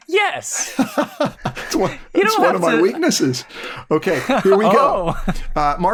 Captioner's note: laughs